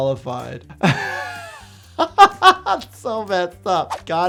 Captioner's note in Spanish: riendo